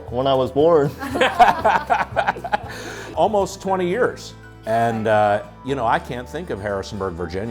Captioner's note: laughter